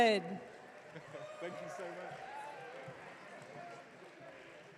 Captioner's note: audience cheering